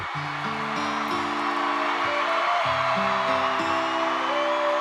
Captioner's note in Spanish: público aclamando